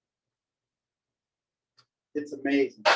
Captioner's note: silence